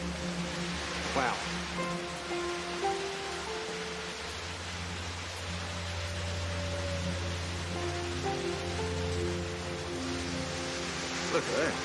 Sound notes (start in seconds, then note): 3.4 water splashing; 8.0 soft piano music